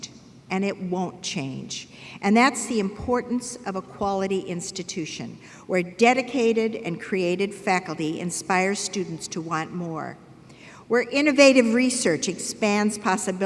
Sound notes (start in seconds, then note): none